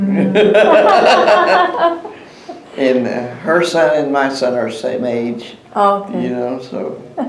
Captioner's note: laughter